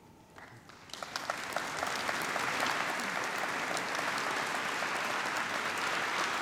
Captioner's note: applause